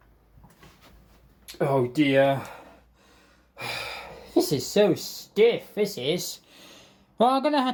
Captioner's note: sighs